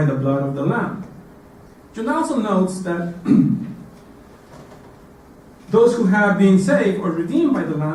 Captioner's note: cough